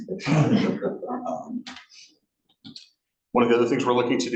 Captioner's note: attendants laughing